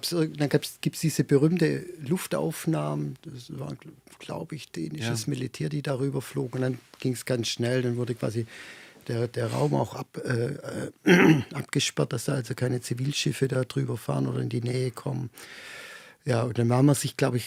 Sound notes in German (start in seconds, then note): 11.0 räuspern